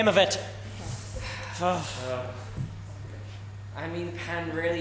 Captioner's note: Pirates sigh